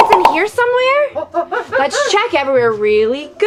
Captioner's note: exciting gorilla sounds